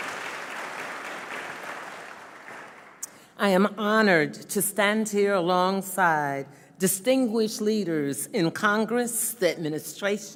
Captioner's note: applause